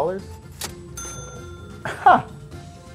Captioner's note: cash register ringing